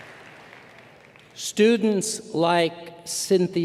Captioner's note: applause